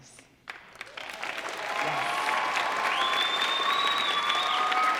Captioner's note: audience applauding